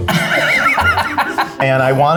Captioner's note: laughs